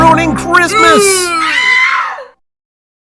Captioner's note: trolls scream of surprised